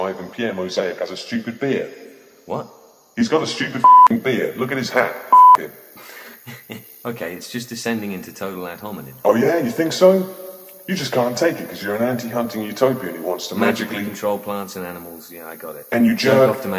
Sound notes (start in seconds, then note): 6.4 laughs